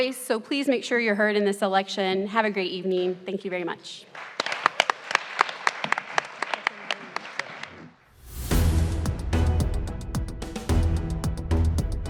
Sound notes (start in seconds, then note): 4.1 everyone applauds; 8.2 upbeat music